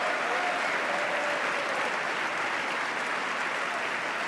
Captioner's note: applause